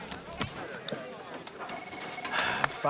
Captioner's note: sighing